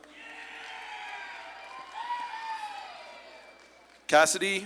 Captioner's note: audience claps and cheers